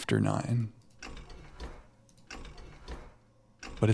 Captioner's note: keyboard clattering